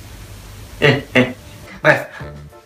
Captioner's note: laugh